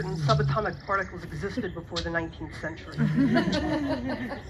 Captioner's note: audience laughs